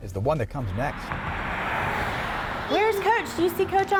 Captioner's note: traffic